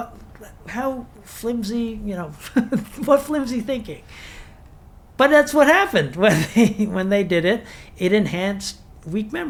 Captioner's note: chuckles